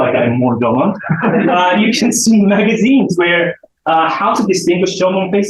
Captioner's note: chuckles